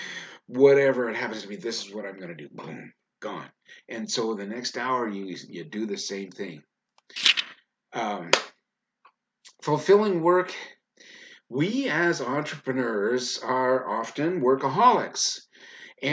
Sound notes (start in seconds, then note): 7.2 page flipping